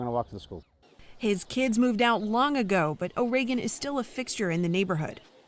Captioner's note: voice-over